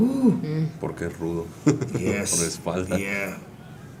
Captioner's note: laugh